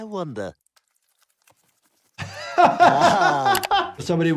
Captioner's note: laughs